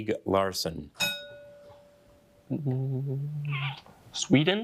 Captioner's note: bell dinging